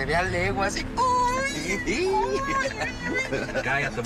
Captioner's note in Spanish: Exclamaciones y risas